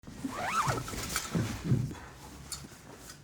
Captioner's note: unzipping